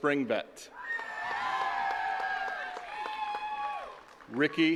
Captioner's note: attendees cheering and clapping